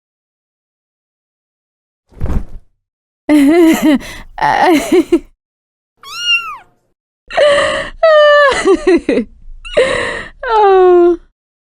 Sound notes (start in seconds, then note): 3.3 nervous Chuckle; 6.0 meow; 8.4 nervous Chuckle